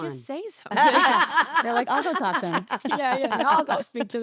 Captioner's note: laugh